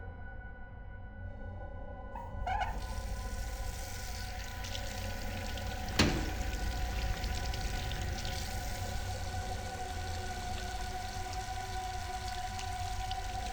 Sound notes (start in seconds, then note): 0.1 eerie tranquil music continues; 5.9 lock clicking; 10.0 eerie music